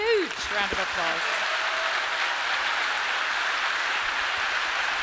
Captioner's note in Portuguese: público aplaudindo